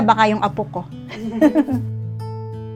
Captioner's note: laughs